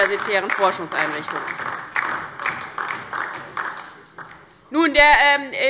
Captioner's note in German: Beifall DIE LINKE